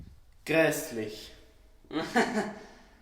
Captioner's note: psychologist laughs embarassed